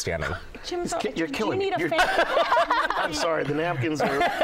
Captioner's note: laughter